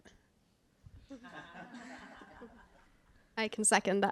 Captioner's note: laughter